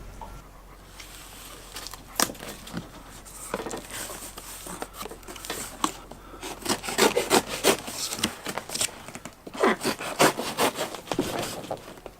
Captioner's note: knife cutting open box